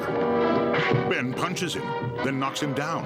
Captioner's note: loud smack